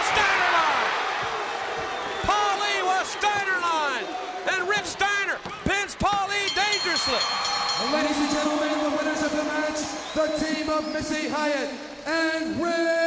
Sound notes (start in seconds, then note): 8.2 bell ringing